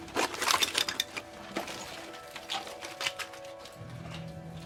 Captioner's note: objects clattering